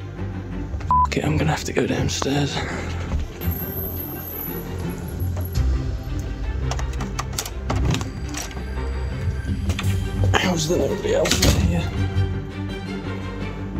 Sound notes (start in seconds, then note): 0.7 whispering; 6.5 door opens; 10.0 whispering